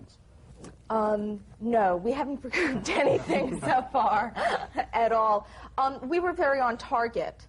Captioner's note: laughs